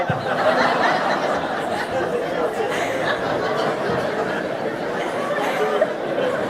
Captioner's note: audience laughing